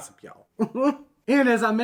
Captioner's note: chuckles